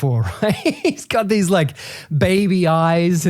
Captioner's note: laughing